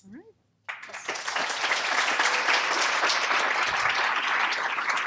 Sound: applause

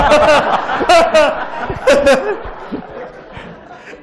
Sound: laughter

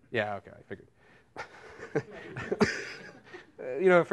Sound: laughter

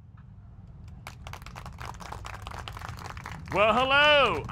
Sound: applause

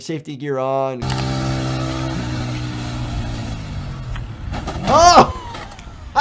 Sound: motorcycle engine whirs

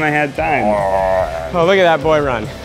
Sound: groaning

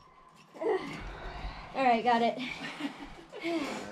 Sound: panting

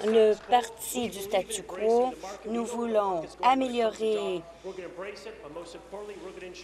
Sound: applause

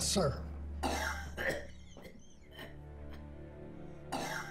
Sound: George coughing

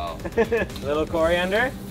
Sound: laughs

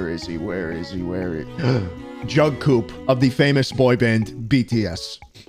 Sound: mild gasp

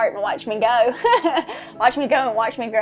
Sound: laugh

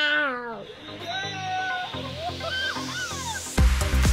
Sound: yelling; upbeat techno music

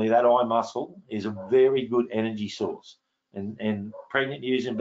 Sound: dog barking

